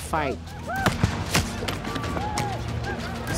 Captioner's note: gunfire